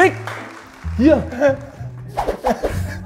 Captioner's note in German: lacht